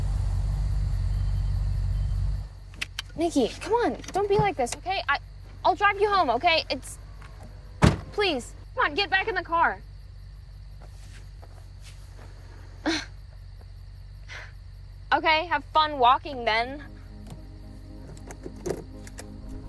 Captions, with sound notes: - Nikki, come on. Don't be like this. Okay. I... I'll drive you home. Okay. It's... please. Come on. Get back in the car. (sighs) Okay. Have fun walking then! (shifts gears)